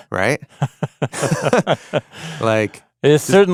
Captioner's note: both laughing